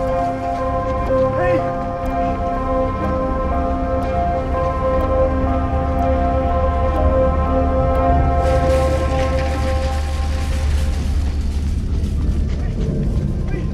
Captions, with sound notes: Hey! (soft, tense music) (basket rattling) Hey! Wait!